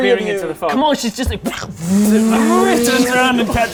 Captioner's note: vroooom